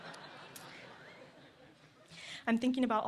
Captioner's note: laughter